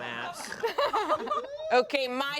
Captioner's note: everyone laughs